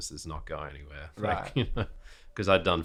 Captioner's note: laughs